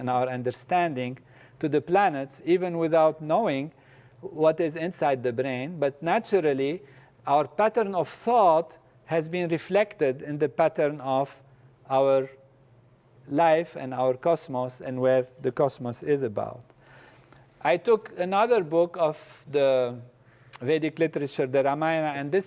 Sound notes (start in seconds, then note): none